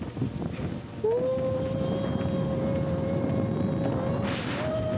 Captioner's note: wind blowing